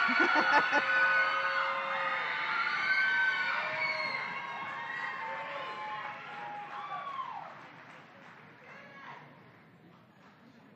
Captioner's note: loud screaming and applause